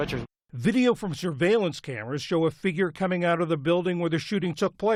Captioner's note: voice-over